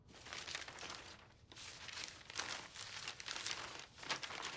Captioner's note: pages flipping